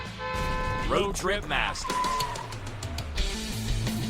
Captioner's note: horn honking; car tires squealing; upbeat rock music